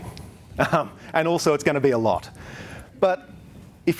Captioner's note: chuckles